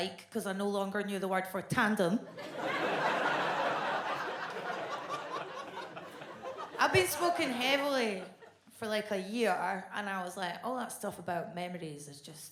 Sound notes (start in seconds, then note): 2.4 audience laughs